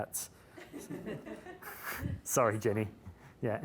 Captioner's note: laughing